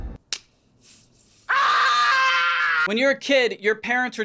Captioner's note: painful screaming